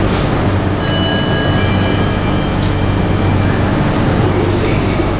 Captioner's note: station chime